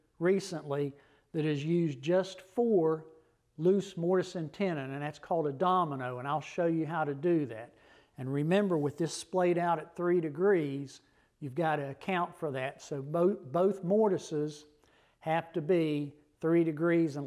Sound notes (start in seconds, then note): none